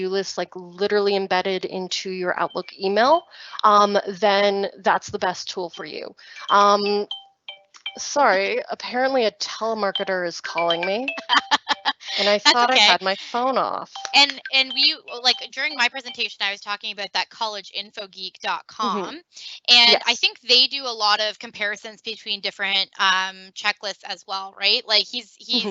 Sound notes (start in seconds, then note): 6.4 cellphone ringtone playing; 11.2 laughing